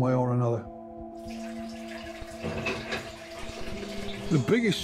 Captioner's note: water rushing